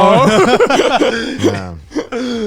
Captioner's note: all laughing